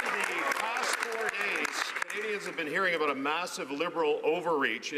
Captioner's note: some Applause